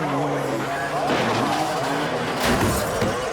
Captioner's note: bike revving; bike crashes; bike thuds; pounds